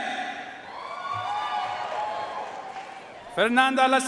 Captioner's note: audience cheering and applauding